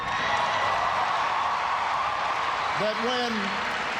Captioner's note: cheers and applause